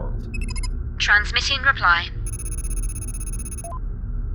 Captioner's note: computer noises